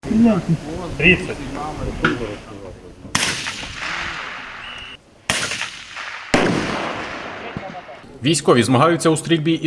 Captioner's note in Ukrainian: звук пострілів